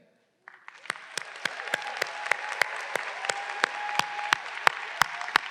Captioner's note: audience applauding